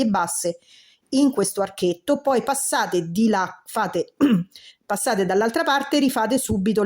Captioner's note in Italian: schiarire la voce